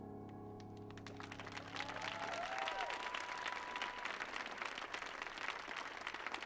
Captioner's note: audience clapping; audience cheering